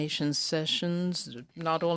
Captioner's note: speaking in french